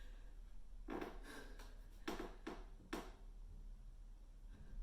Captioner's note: floorboards creak